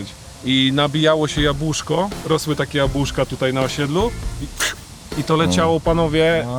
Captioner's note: sound of a shot